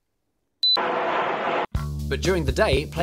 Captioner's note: jet engine noise